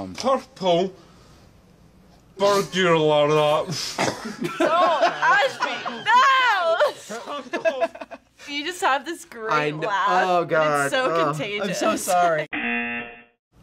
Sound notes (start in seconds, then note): 4.0 laughs; 12.5 buzzer